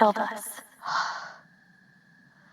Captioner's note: heavy Breathing